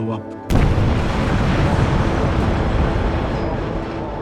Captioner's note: explosion crashes